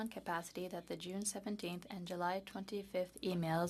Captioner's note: speaking French